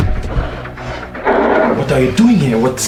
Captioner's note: Rugido